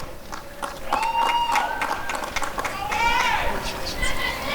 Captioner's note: applause and cheering